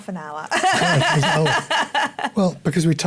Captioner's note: laughter